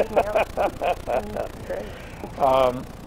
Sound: both laugh

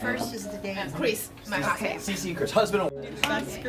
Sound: attendants conversing

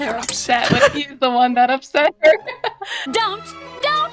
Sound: laughing

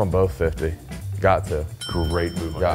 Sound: bell dinging

